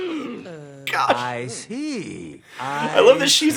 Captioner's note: laughs